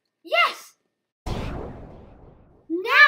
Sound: boom

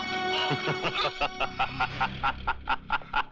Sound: laughing

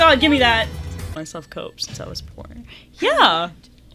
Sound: thud

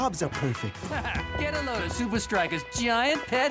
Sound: laughing

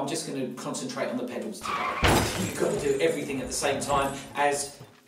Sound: car crash sound

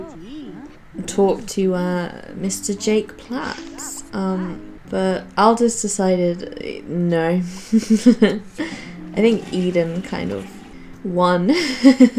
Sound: giggles; giggles

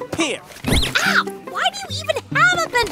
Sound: soundbite of squeak

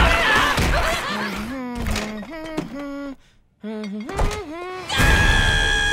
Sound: screaming; humming; screaming; laughing

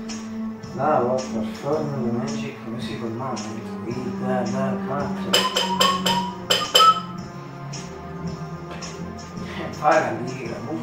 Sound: whistle

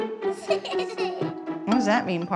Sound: laughing

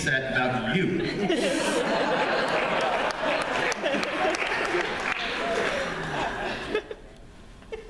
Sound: laughter

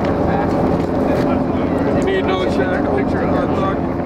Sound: crew murmurs

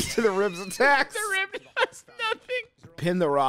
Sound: laughing

